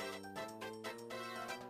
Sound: none

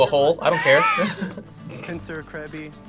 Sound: both laugh

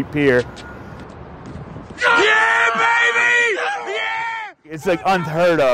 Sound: cheers

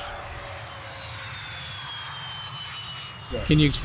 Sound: jet roaring and whining

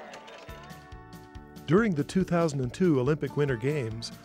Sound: voiceover

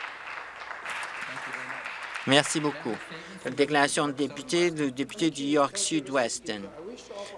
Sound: applause

